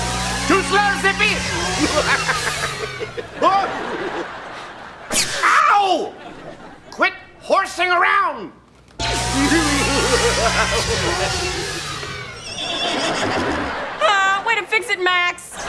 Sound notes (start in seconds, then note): 1.0 laughing; 9.0 laughing; 12.0 neighing